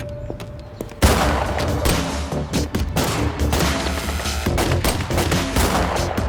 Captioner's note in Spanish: Disparos